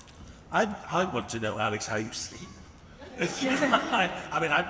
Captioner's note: laughs